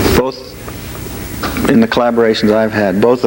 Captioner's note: none